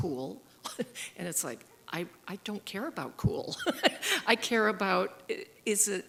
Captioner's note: giggle